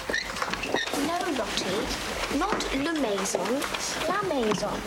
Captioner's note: speaking in a foreign language